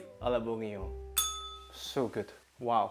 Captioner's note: bell rings